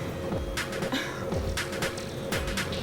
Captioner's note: Justine sighs